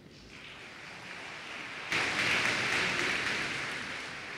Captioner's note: applause